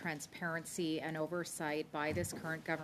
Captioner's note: speaking French